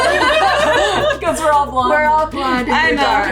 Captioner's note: all laughing